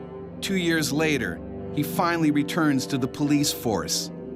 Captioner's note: voiceover